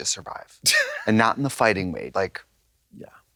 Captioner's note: Katya giggles